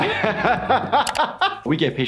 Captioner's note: laughing